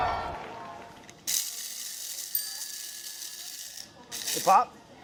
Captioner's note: audience applauding; toaster beeping; grinder whirring; bell dinging